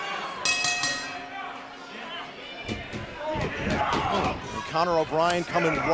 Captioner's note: bell ringing; crowd chatter